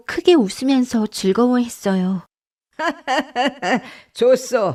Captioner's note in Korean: 웃음